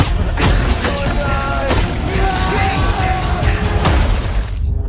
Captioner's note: yelling